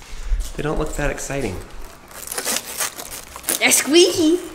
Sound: water bottles squeaking

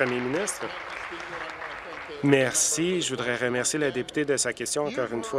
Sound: applause

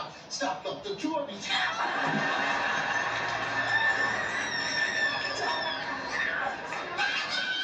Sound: screaming

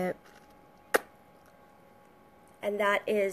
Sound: lip smacking

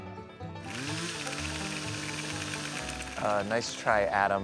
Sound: whirring effect

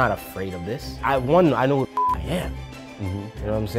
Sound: beep

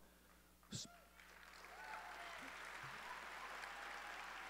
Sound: audience cheering

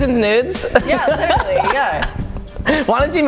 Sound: laughs

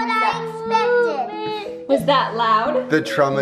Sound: crying

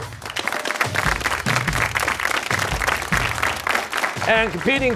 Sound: cheers and applause

